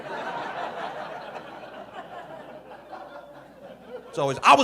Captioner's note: audience laughing